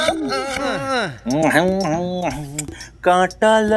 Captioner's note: Munching